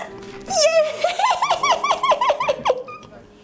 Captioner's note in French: rires